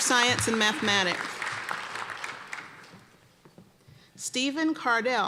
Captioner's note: applause